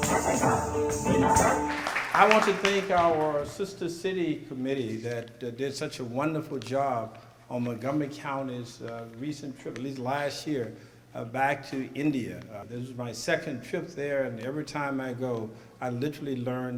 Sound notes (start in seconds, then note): 0.0 applause